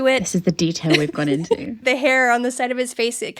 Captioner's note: laughing